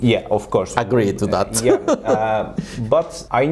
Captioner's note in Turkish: Gülerek